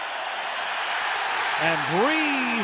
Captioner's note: cheering